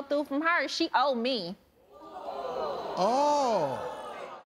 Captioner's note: audience groaning